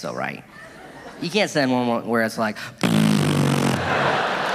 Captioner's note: audience laughing; cheering